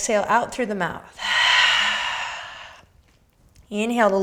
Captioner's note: exhaling